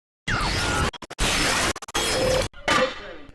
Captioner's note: static buzzes